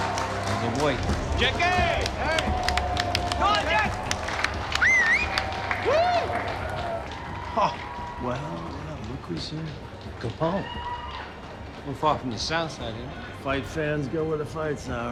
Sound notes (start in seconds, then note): 4.7 whistling